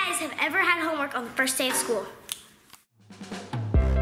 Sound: snaps fingers; upbeat music

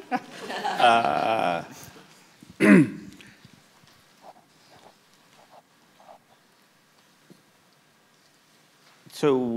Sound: laughter

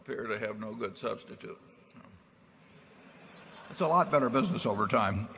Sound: laughter

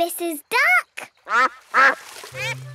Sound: quacks

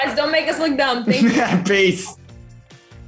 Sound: laughing

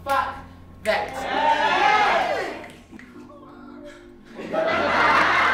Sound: crowd cheering

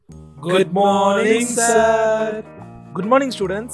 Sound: student chorus

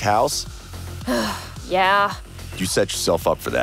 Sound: sigh

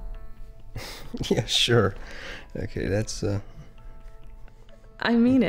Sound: laughs

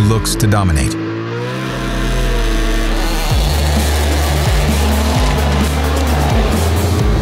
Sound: cars speed off; upbeat exciting music

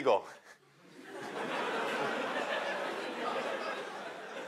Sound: laughter

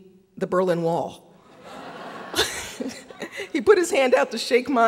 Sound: audience laughing

